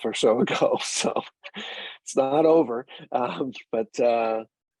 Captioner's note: chuckling